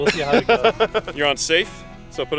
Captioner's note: laughs